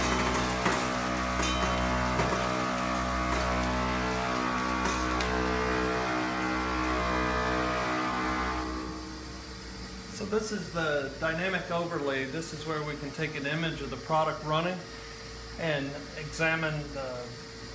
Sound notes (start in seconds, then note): 7.6 machine stopped